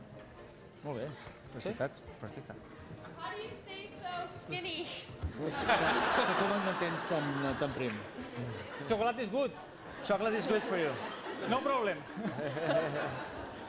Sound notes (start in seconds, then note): 5.3 laughter; 7.1 non-english speech